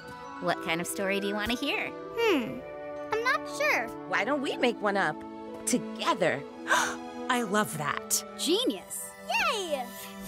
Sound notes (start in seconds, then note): 6.5 gasping